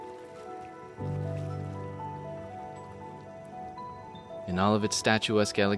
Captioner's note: water flowing; gentle music continues